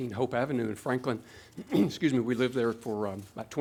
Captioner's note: clears throat